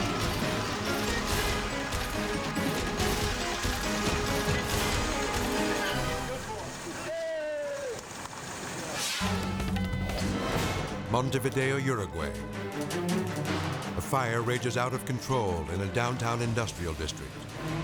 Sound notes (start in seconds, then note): 0.0 bright dramatic music; 8.8 air whooshes; 10.2 siren blaring; 10.2 upbeat dramatic music